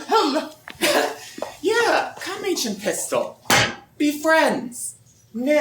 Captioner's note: BARDOLPH strikes stick on ground